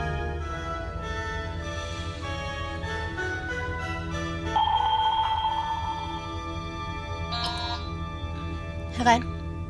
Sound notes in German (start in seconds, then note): 7.2 Türsummer